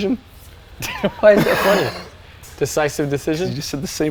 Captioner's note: laughs